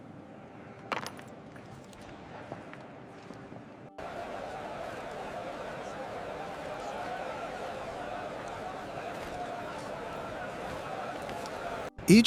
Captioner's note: crowd cheering